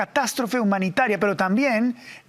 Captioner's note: HABLA EN INGLéS